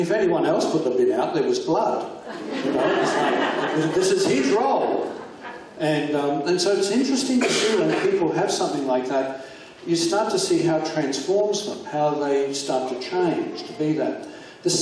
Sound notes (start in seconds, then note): 2.2 audience laughs